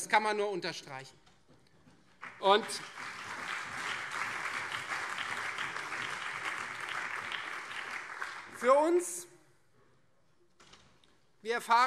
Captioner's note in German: Beifall Freie Demokraten, CDU, SPD und BÜNDNIS 90/DIE GRÜNEN